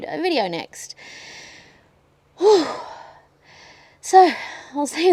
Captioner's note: takes a deep breath and breathes out heavily